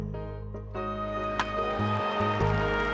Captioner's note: bat hits; crowd applauds and cheers